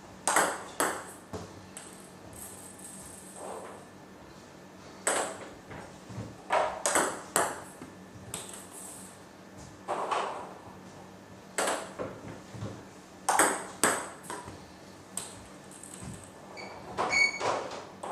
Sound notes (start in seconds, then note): 0.2 balls ping pong hitting; 9.4 balls ping pong hitting continues